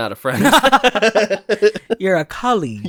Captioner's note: laughs